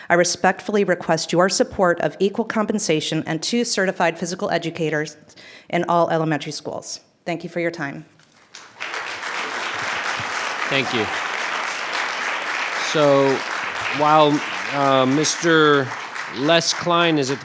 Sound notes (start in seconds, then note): 8.8 clapping